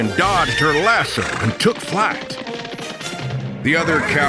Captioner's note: horse hooves galloping